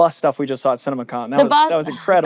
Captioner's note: sighs